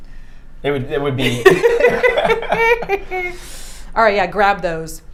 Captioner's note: both laughing